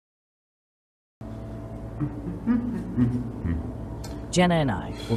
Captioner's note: Ava hums